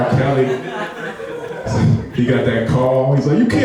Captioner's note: laughing